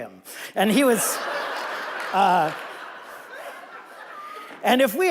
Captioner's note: audience laughing